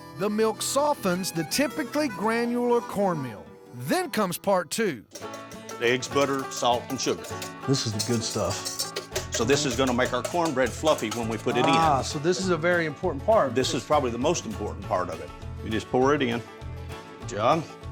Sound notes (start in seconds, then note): none